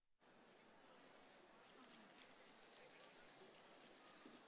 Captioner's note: crowd chattering